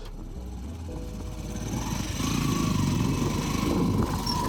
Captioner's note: engine purring